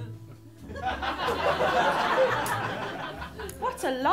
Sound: laughter

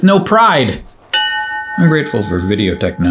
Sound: bell ringing

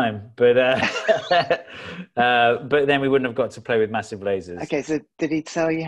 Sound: laughs

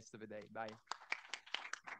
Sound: audience applauds

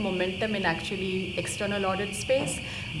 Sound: speaking faintly

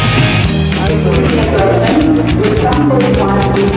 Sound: intercom

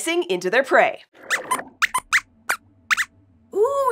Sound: squeaks squeaks

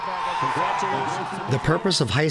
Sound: cheering

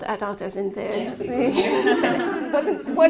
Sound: laughing

